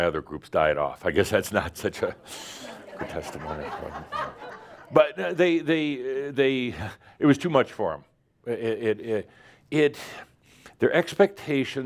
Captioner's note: more laughter